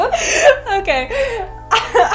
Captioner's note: laughs